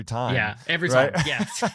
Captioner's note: laughing